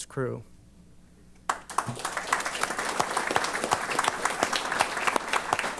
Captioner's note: applause